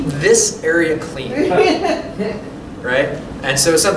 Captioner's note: laughter